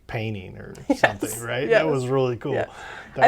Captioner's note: laughs